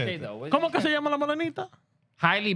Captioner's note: speaking Spanish